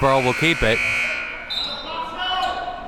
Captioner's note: buzzer blares; whistle blows